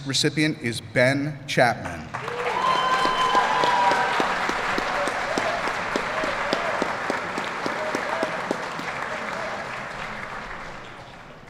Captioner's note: applause